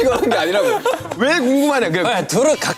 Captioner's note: haha